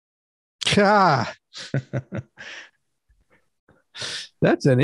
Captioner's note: both laugh